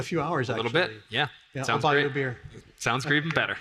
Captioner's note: laughs